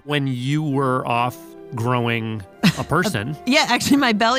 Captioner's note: laughs